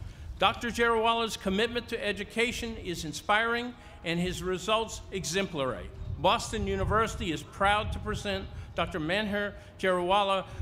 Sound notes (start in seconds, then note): none